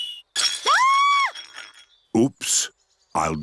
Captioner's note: clattering and shrieking